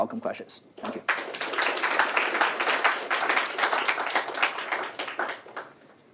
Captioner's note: applause